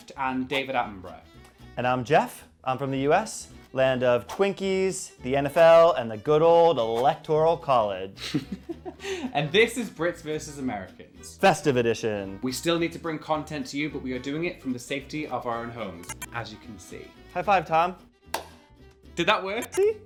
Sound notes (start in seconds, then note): 8.5 laughing; 18.3 clapping